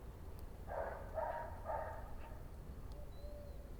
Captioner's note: A dog barking in the distance